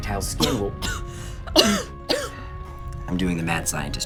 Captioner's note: coughs aggressively